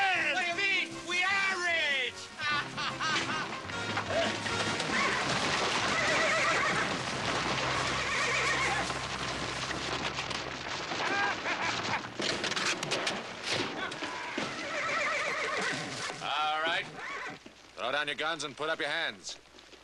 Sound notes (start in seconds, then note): 2.4 laughing gleefully; 5.9 neighing; 10.9 cackling